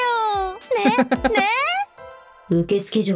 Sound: chuckles

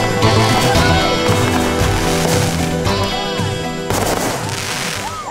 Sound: fireworks crackle; crowd cheers

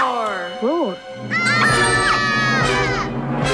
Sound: screaming

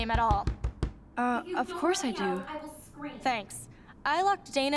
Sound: pounding at door

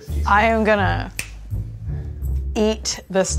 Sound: snapping fingers

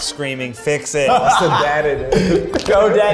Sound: laughing

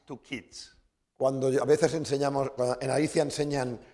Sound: speaking spanish

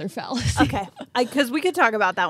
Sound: chuckling

